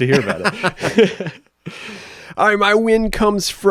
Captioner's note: both laugh